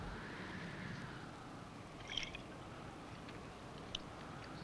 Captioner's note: wind whistling